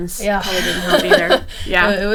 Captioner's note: laughing